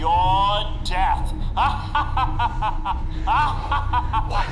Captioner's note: evil laugh